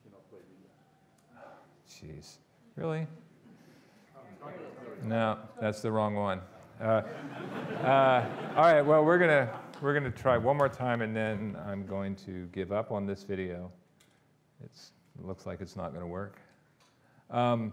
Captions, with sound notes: Geeze. Really? - [Crowd] Oh, there it is. - No, that's the wrong one. (audience laughing) All right, well, we're gonna try one more time and then, I'm going to give up on this video. It looks like it's not gonna work.